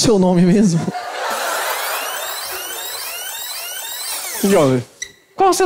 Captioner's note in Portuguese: fita rebobinando